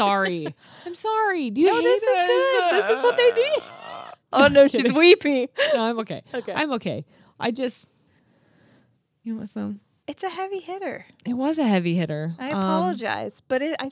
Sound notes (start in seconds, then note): 4.0 chuckling